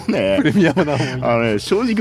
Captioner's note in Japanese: 笑い